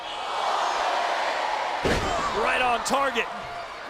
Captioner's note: applause